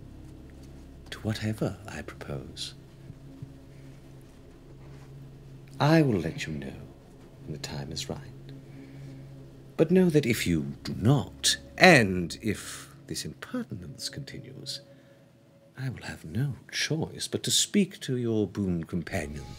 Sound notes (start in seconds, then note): none